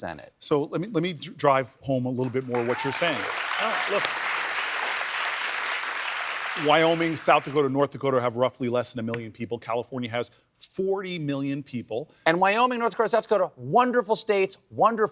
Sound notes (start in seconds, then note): 5.3 applause